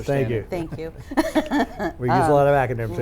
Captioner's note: laughing